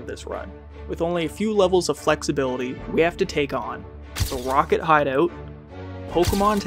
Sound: camera flash

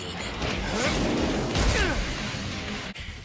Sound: Aizawa grunts

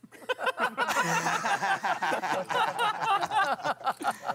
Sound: laughing

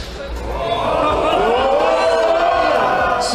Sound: crowd be wildin

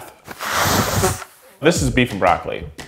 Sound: blows nose

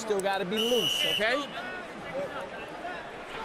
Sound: whistle blows

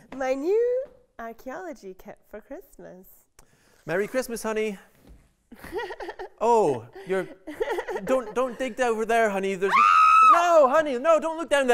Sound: laughs; screams

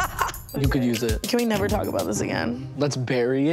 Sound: Tana laughing

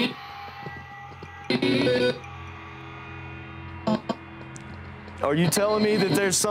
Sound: choppy electronic voice

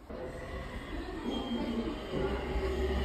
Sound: sound of iron

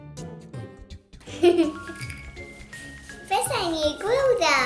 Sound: laughing

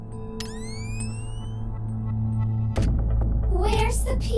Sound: electrical whizzing

